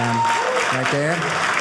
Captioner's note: audience cheering